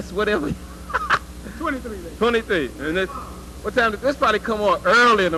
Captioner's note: laugh